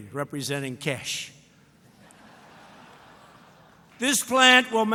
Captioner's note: laughter